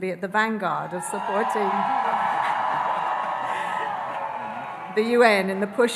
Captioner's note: audience cheering; laughs